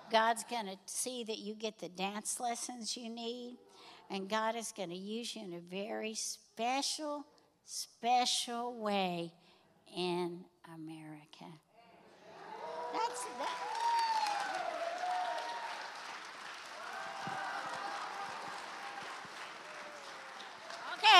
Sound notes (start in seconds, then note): 10.2 congregation cheers; 15.7 congregation applauds